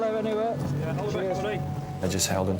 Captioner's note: people chattering